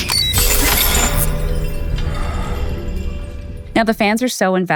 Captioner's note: device beeping and crackling